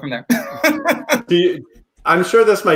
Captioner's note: laughs